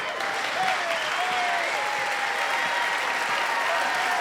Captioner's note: clapping and cheering